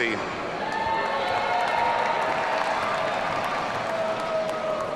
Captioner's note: audience cheering